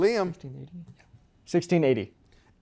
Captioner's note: whispers